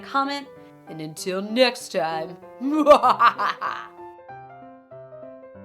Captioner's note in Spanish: risas